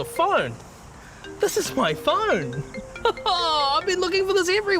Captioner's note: laughs